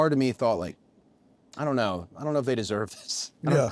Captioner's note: laugh